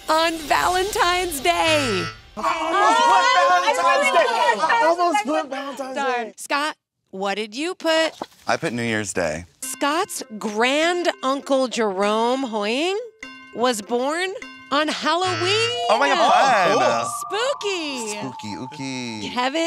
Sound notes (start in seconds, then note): 1.9 buzzing; 2.4 group shouting; 15.2 buzzing